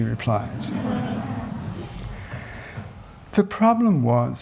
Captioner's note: laughter